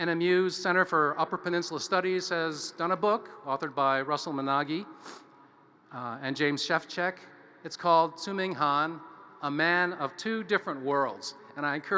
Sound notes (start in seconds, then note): none